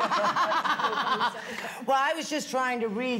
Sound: laughs

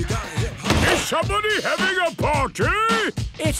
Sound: shouts

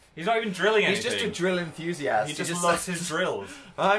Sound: laughs

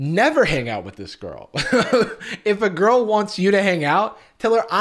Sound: laughs

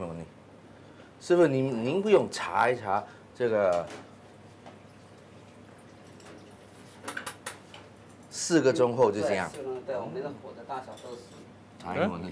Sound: speaking Chinese

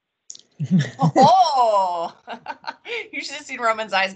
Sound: laughs

